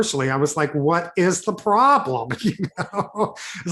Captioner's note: chuckles